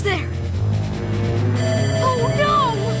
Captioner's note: beeping